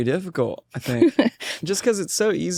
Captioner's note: laughs